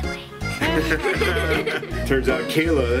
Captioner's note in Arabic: يضحك